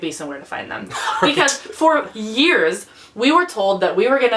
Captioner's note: laughs